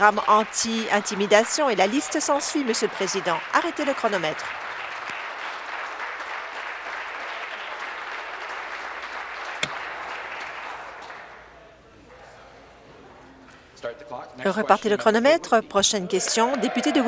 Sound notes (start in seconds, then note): 3.3 applause